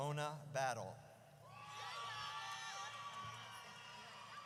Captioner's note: audience cheers